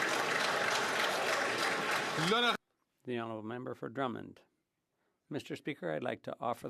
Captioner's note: some Applause